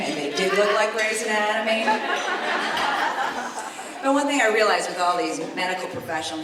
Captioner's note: laughter